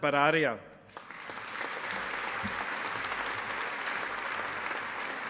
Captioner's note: audience applauding